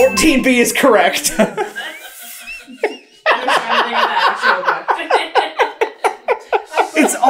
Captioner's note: team laughter